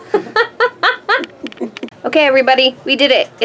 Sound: laughs

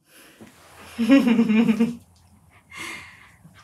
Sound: laughs

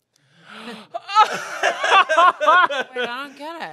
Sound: laughs

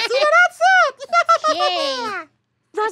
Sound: laughs

